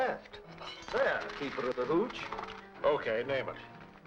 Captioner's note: coins rattling